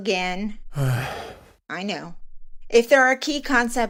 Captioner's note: another groan